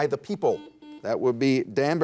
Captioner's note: buzzer dings